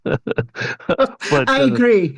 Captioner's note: laughs